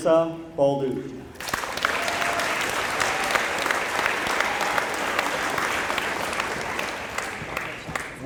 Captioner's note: applause